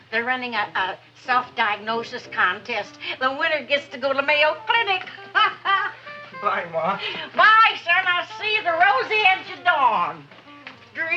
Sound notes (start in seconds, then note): 5.0 laughs